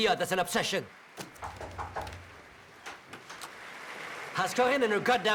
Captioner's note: knock taps; muffled audience echoes